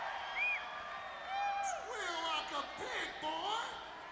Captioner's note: crowd cheering